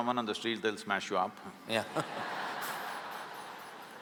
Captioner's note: laughter